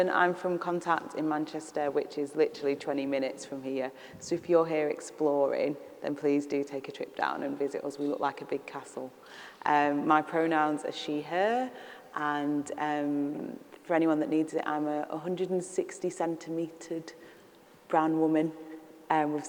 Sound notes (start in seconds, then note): none